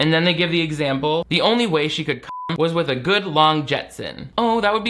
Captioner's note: beep